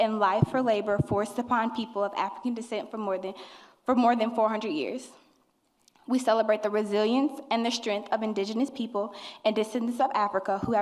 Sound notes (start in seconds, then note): none